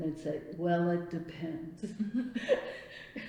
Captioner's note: laughs